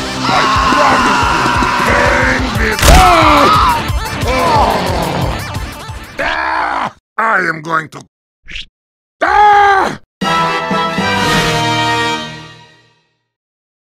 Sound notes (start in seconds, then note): 0.1 Scout screams; 2.8 crashes; 4.2 both groaning; 6.2 Peppino growls; 9.2 screams; 10.2 dramatic music plays